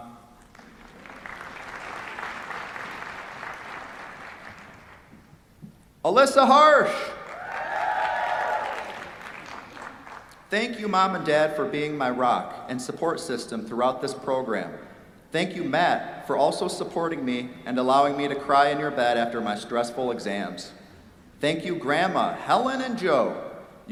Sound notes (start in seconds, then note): 0.4 applause; 7.2 cheers, applause